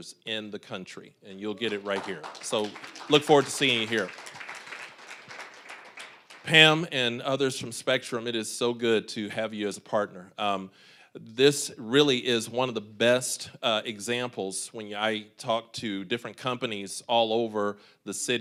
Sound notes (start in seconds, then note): 4.3 applause